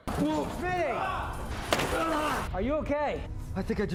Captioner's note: struggling